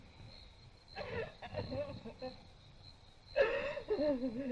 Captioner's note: sobbing